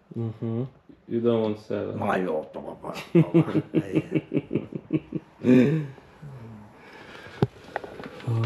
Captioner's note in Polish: śmiech